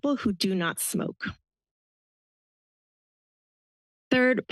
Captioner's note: pause